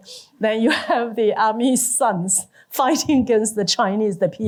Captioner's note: none